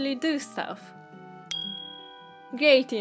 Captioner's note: bright clinking sound